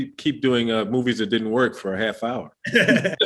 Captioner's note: chuckling; laughing